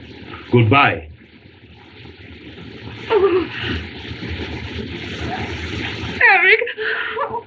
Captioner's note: shudders; crying